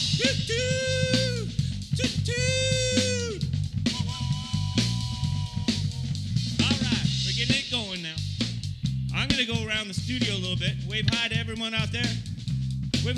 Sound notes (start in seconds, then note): 3.8 whistle blows